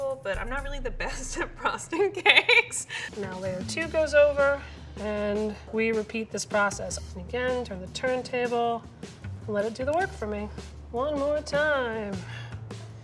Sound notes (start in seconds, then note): 1.9 laughs